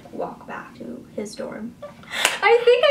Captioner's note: laughs